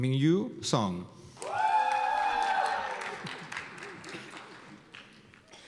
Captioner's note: cheers and applause